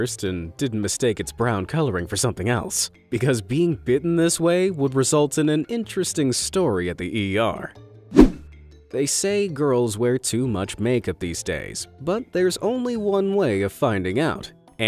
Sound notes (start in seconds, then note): 8.1 image whooshing